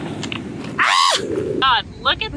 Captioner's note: screams